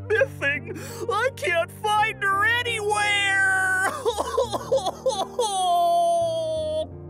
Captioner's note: sobbing; gentle piano music